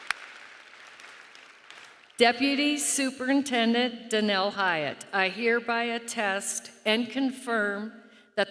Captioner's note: applause